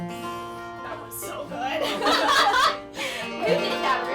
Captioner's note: laughs